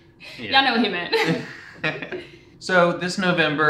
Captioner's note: chuckles